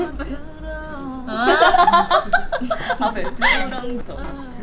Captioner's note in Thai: เสียงหวานขยี้ใจ